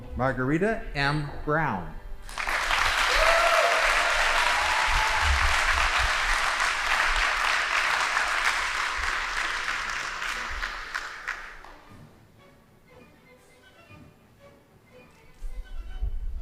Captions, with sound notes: Margarita M. Brown. (audience applauding) (band playing)